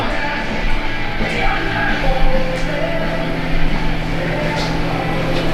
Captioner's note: metal Clanking